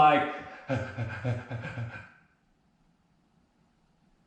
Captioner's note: breathes really fast